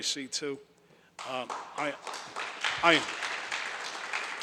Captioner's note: audience applauds